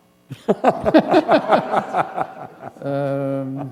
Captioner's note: laughter